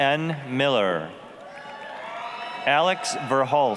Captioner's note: applause, cheering